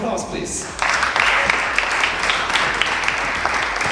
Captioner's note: applause